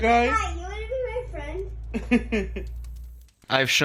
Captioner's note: man laughing